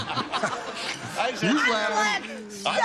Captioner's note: laughter